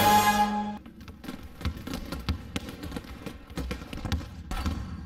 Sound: basketball dribbling noises

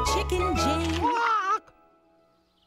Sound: Chicken Jane squawks

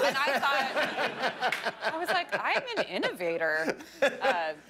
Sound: laughter

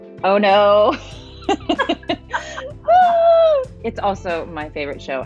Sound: both laughing

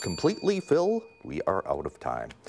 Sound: dings

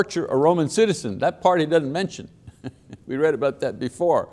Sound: chuckles

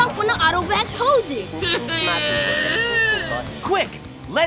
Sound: crying

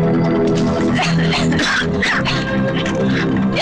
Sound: cough

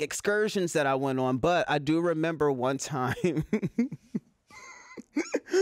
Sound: laughs

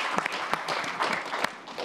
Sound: applause

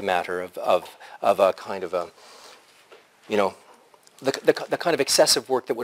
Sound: pause

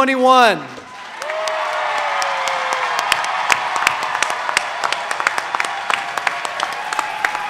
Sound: audience cheering; audience applauding

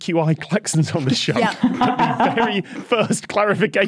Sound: group laughing

